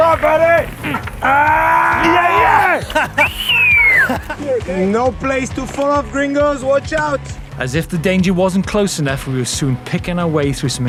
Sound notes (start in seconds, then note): 0.3 grunting; 3.0 whistling; 3.3 laughing